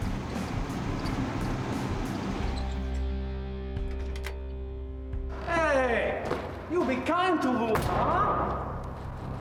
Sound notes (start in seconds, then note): 1.5 engine bangs